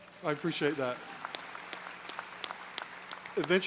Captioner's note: applause